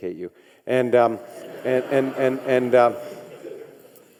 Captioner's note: audinece chuckles